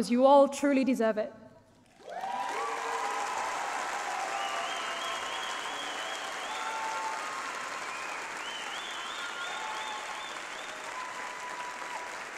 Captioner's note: applause